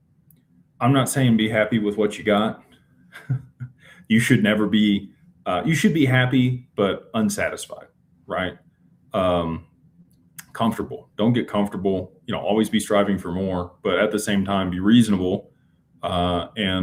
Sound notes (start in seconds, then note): 3.1 laughter